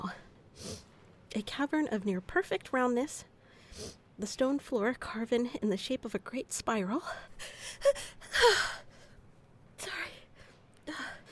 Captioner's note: almost sneezes